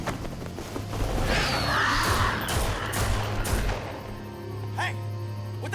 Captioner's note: creature screeches